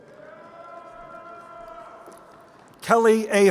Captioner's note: crowd cheering